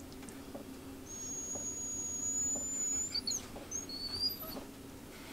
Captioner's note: Caesar is whimpering